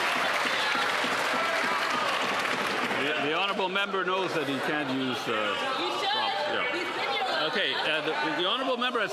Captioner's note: some Applause